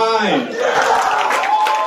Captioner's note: cheers